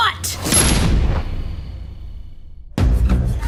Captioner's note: gun firing